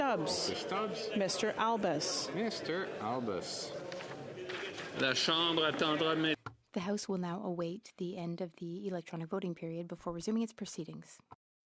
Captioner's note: calling of recorded vote